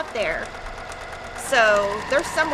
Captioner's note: machine whirrs